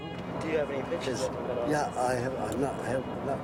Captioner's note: stammers